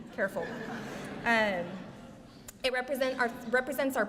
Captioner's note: laughter